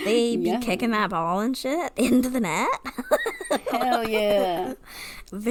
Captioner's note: laughs